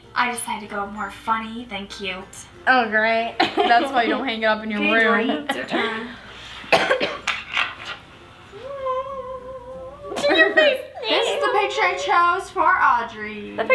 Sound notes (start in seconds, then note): 6.7 coughing